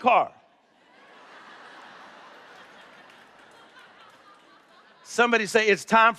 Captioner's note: laughter